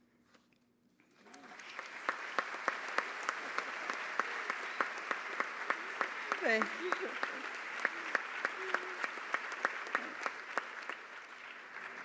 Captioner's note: applause